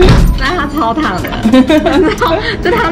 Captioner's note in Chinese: 呵呵呵～